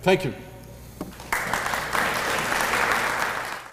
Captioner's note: applause